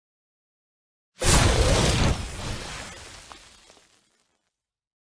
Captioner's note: explosion